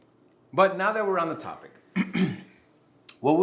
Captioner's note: clears throat